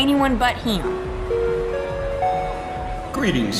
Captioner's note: overhead PA system